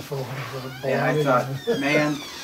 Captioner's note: laughs